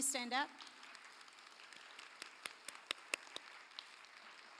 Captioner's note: applause